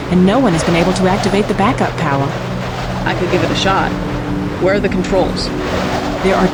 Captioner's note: poof